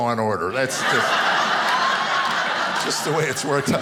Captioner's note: audience laughing